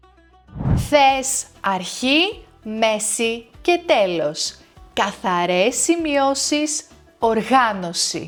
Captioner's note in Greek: ήχος εισαγωγής διαφάνισης